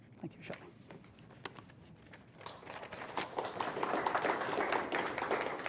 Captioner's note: applause